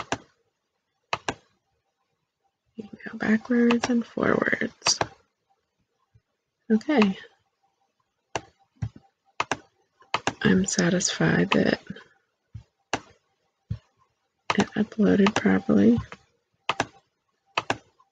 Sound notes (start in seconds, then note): 0.0 click; 3.6 click